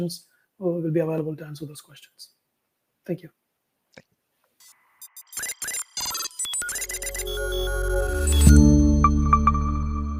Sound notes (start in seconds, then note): 5.0 devices beeping; 5.1 dynamic music